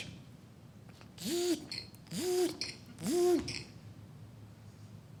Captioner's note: mechanical Sounds